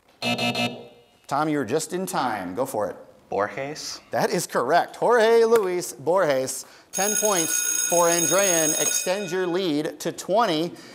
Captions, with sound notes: (buzz) Tom, you were just in time. Go for it. >> Borges. >> That is correct. Jorge Luis Borges. (bell ringing) 10 points for Andrean extends your lead to 20